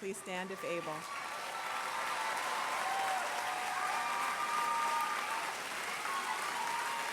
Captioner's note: applause